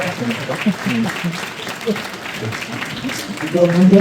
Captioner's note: applause